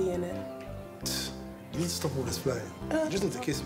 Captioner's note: scoffs